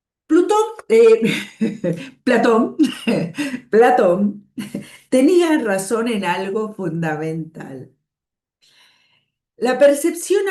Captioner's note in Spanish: risas